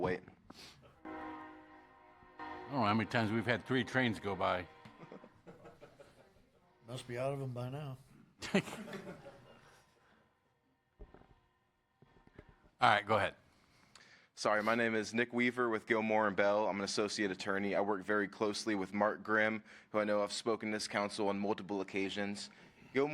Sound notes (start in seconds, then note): 8.4 laughter